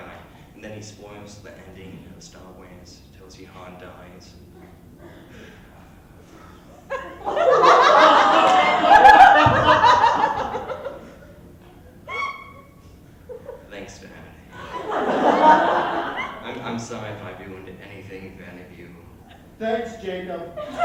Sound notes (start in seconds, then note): 4.7 long pause; 6.8 heavy laughter and sudden realizations; 14.5 laughter; 20.5 laughter